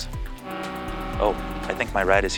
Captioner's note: horn blows